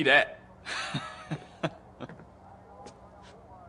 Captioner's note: laughing